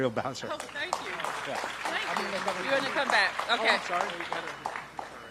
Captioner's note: applause